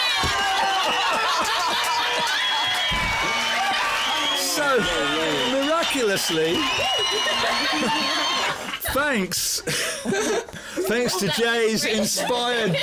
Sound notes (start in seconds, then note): 0.5 laughter; 2.6 cheers